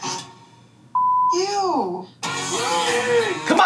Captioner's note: beep